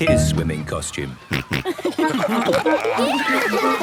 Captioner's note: snorting, giggling